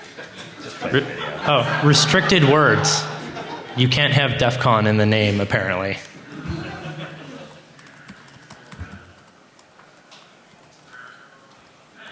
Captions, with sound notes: restricted words. You can't have DEF CON in the name apparently. [Laughter] >> I wouldn't be